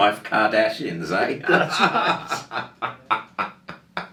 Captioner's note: laughing